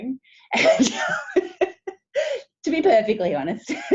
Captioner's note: laughing